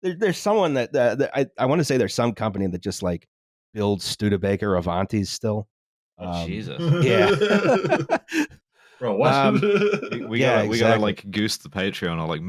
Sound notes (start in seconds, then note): 6.6 laughs; 9.9 laughs